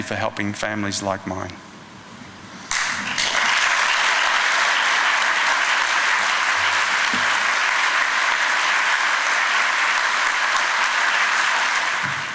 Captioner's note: clapping